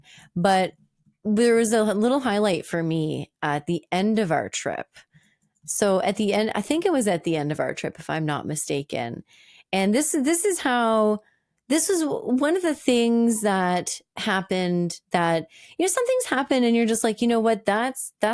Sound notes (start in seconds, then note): none